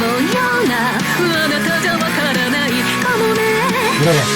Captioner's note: falsetto